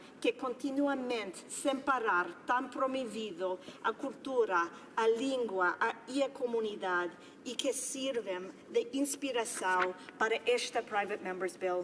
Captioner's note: speaking another language